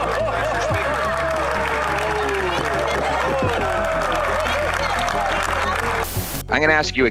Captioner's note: applause